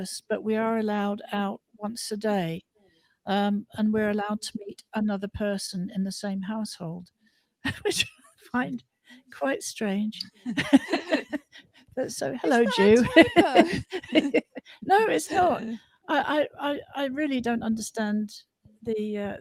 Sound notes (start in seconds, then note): 10.4 laughter